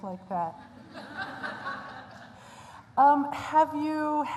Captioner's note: laughter